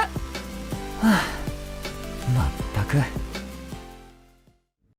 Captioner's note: sigh